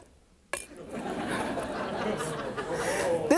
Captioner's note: audience laughing